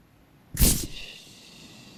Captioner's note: fizzing